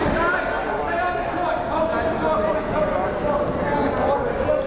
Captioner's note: crowd murmuring